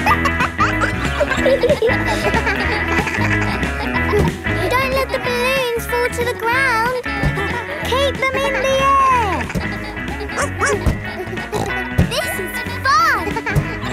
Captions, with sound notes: (KIDS LAUGHING) Don't let the balloons fall to the ground. Keep them in the air! (BARKS) (SNORTS) This is fun!